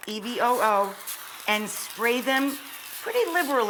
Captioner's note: can spritzing